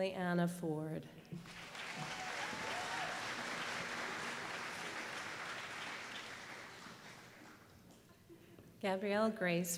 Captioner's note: applause